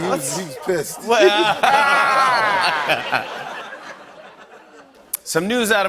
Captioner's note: laughter